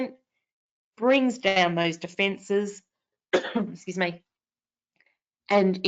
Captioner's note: coughs